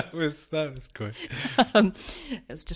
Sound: laughs

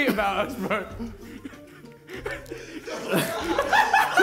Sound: laughs

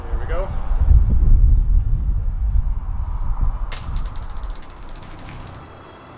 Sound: wind buffeting

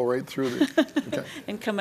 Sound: laughter

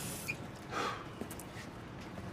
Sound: exhales

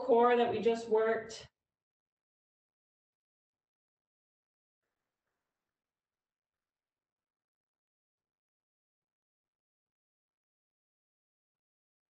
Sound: silence

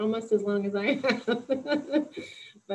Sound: laughs

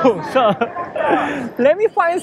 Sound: chuckles

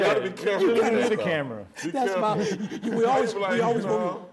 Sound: laughing

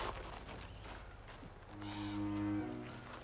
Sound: bird cawing

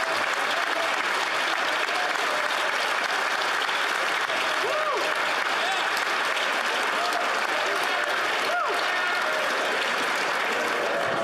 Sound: applause

